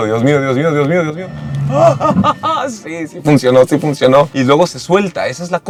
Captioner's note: nervous laughter